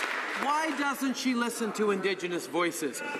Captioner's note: some Applause